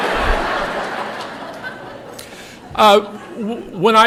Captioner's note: laughter